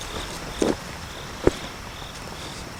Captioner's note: footsteps